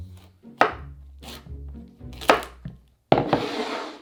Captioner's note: knife chopping